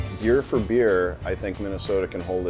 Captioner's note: voiceover